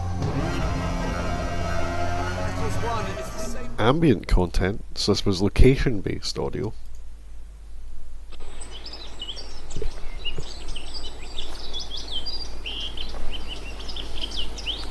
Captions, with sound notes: [Machine Whirring] - Ambient content, such as location based audio. [Birds Chirping] [Footsteps]